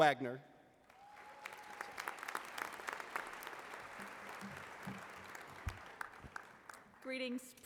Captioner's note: applause